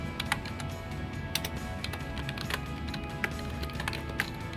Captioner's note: upbeat music; typing sounds